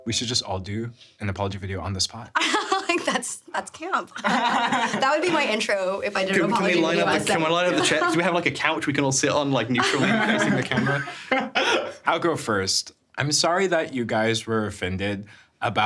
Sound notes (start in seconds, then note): 4.1 laughs; 4.2 laughing; 9.7 laughing